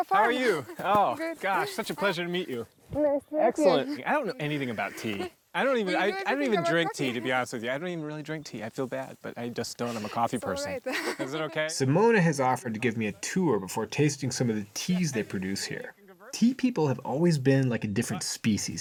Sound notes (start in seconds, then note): 5.6 laughs